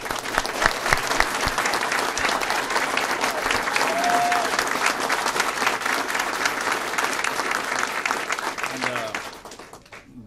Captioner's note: applause